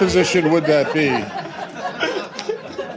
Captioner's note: laughter